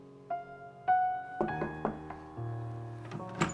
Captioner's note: knock on door